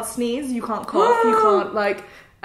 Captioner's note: gasps